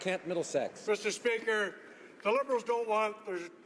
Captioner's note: some Applause